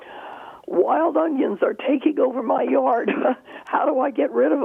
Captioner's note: chuckles